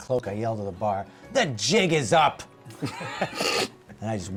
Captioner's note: shouting